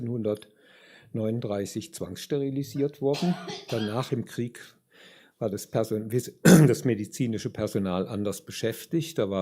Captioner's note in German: räuspern